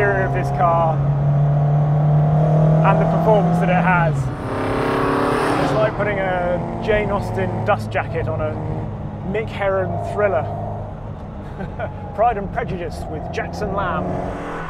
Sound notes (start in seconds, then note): 4.6 engine revving; 11.4 laughs